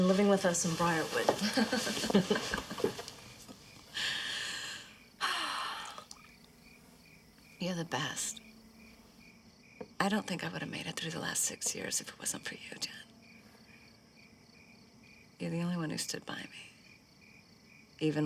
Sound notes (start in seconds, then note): 1.5 both chuckling; 5.2 sighing